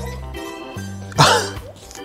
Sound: laughs

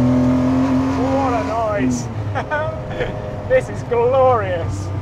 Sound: chuckles

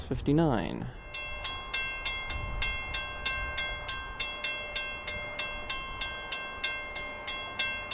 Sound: original high pitched bell restarts

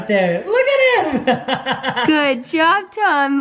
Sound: chuckling

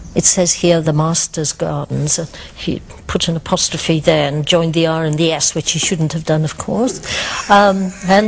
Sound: both laugh

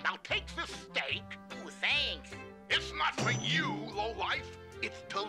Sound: none

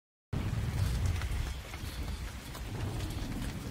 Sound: rain splattering

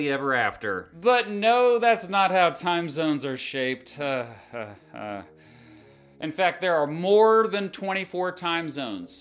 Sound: laughs

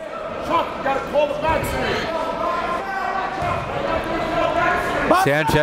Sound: crowd cheers and jeers

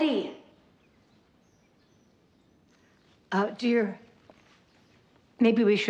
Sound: footsteps clomping

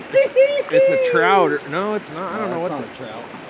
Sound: chuckling

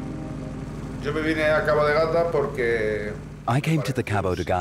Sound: he speaks Spanish

